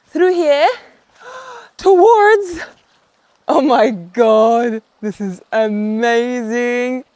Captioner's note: gasps